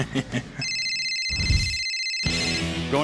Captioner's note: chuckling; phone ringing